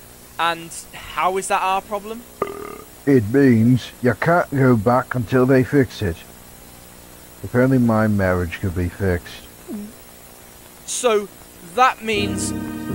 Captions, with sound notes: "And, how is that our problem?" *burps* "It means, ya can't go back until they fix it." "If only my marriage could be fixed." "So, that means..."